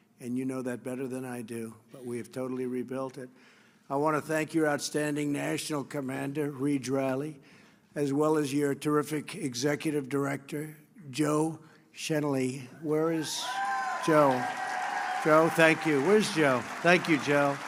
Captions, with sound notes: And you know that better than I do. But we have totally rebuilt it. I want to thank your outstanding National Commander Rege Riley, as well as your terrific Executive Director Joe Chenelly. (applause) Where is Joe? Joe, thank you. Where's Joe? Thank you, Joe.